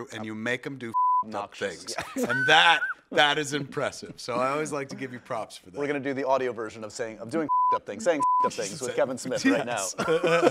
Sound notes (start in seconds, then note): 0.9 beeps; 1.9 laughs; 7.4 beeps